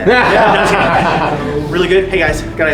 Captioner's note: boisterous laughter